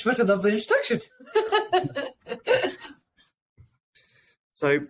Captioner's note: laughing